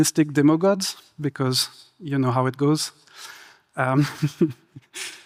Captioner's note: laughs